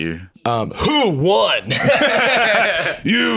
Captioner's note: both laughing